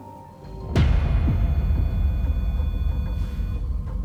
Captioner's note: beeping; ominous music